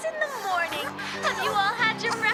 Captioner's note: yawns